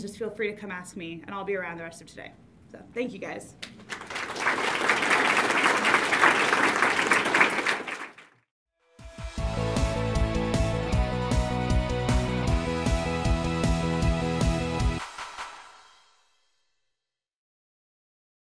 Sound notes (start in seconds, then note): 3.6 audience claps; 9.1 upbeat music